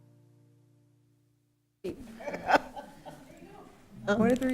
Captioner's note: laughing